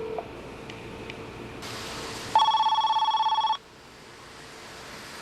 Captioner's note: ringing continues